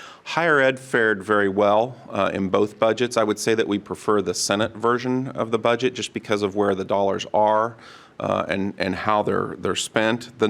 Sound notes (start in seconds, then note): none